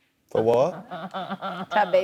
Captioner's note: laughs